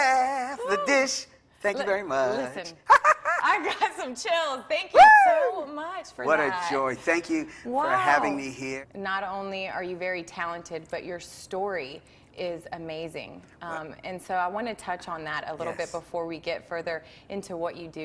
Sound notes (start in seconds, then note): 2.8 laughs